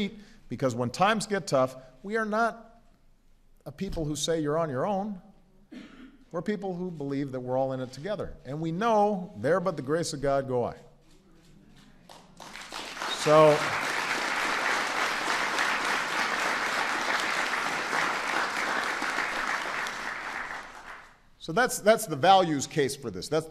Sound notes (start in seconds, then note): 16.7 applause